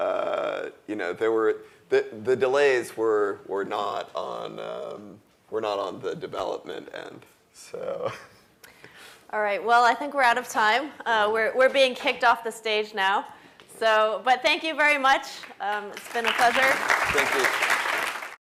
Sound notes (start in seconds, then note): 8.0 laugh; 15.6 applause